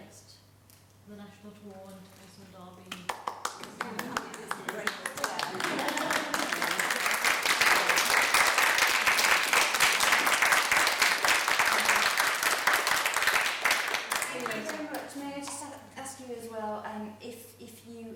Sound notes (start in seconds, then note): 3.9 applauding